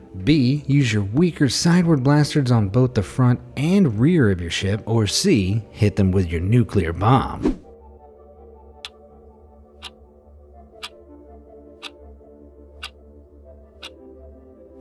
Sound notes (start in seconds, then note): 7.4 air whooshing; 9.8 clock ticking